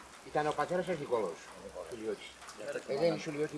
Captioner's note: in Greek